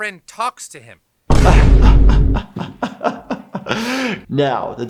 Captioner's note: laughs